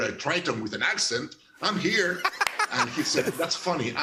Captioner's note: laughter